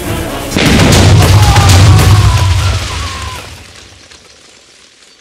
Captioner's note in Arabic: انفجار